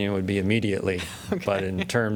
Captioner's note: laughter